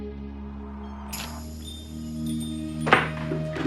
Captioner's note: door chimes ring